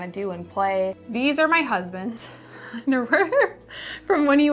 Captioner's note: laughs